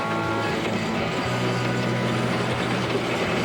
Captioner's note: failing of engine